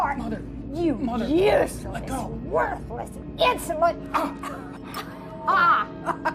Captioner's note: laughs